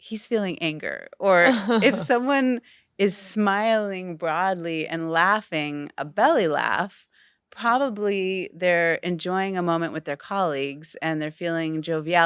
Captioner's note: cười rung cả bụng